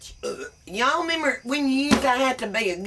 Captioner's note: burps